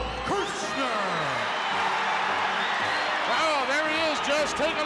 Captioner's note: crowd cheers